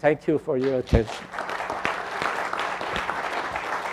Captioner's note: applause